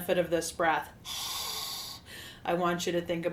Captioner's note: loud exhale